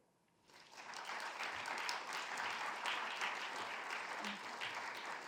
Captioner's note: audience applauds